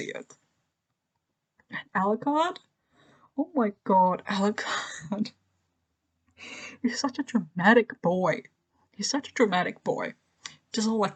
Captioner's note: laughs